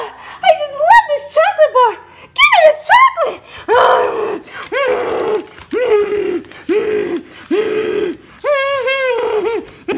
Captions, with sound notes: - Oh, I just love this chocolate bar. Give me the chocolate! (growling)